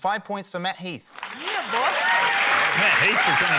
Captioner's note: cheering, applause